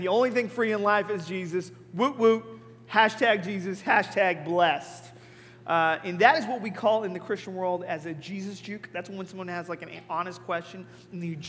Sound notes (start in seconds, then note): none